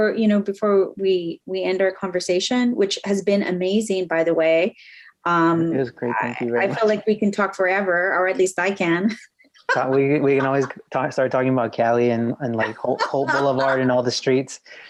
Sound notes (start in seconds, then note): 9.6 laughs